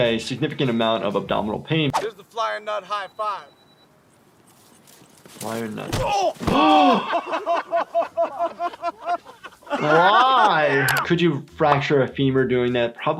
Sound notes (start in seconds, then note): 6.6 doctor gasps; 9.2 Jackass crew laughs